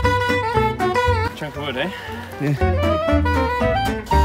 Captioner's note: laughs